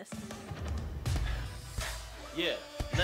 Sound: fists pounding

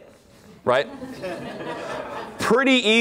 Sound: laughter

